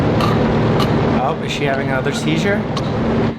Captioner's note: loud whirring; choking